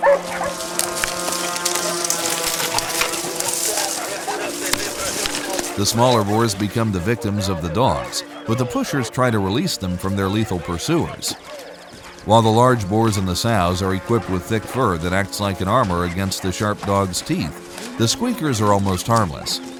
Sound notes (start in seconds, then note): 0.6 dogs barking; 0.6 shuffling